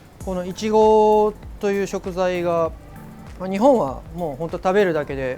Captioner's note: speaks in foreign language